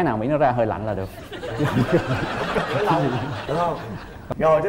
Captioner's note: laughing